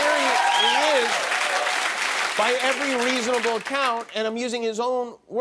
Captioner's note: applause